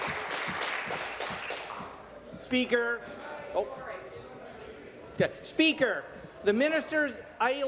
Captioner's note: applause